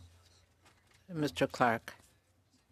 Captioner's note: speaking French